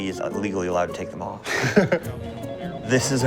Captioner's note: laughs